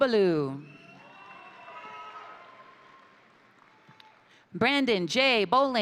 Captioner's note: crowd cheering; crowd applauding